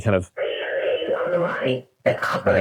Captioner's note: distorted